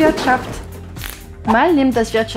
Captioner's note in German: tschh